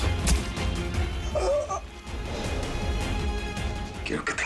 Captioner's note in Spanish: Quejidos